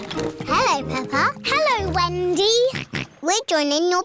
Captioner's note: snorts